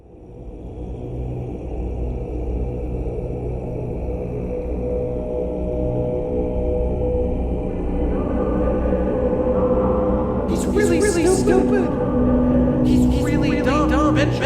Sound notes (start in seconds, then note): 10.5 echoing